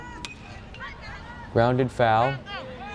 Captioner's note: bat cracks